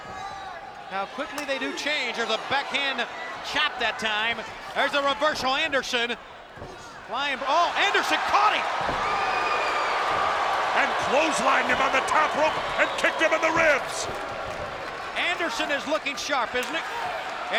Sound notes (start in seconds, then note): 9.2 spectators cheering